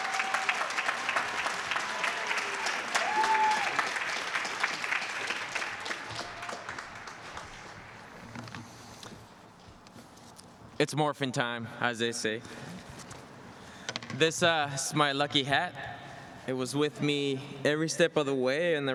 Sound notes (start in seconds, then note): 1.3 applause